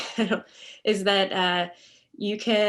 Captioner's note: laughs